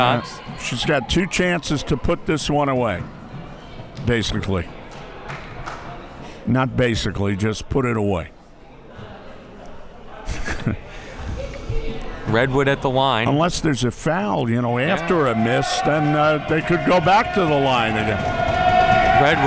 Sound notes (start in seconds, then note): 8.7 crowd murmuring; 10.2 laughs; 14.8 crowd cheering